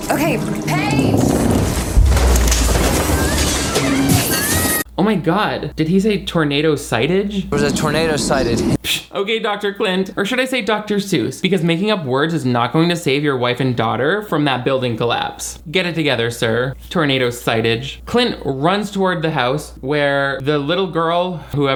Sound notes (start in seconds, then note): 0.1 electricity buzzing; 1.1 roof crashing